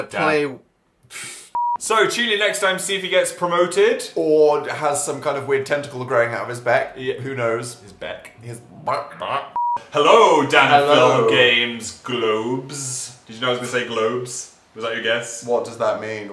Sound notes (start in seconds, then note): 1.0 laughs